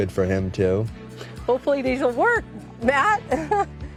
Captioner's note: laughs